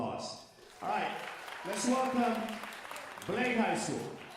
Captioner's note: audience applauding